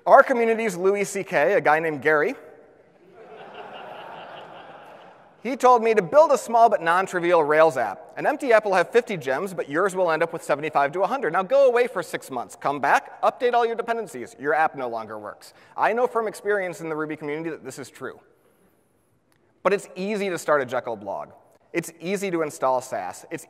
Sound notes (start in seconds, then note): 3.0 audience laughs